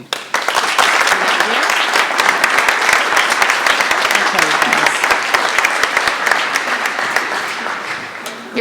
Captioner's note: appalause